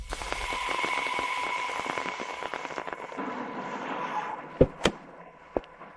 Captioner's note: tires screeching